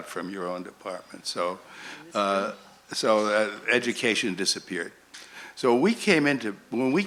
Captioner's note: voiceover